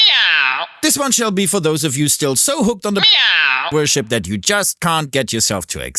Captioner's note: meow; meow